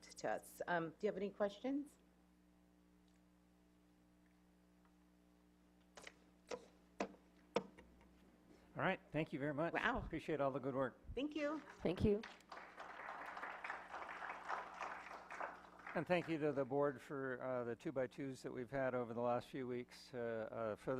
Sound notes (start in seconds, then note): 14.0 clapping